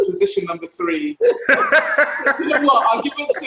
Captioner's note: laughs